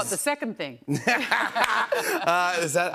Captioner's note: laughs